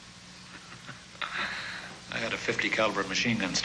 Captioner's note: chuckles